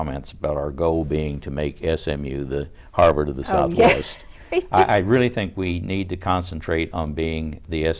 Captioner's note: laughs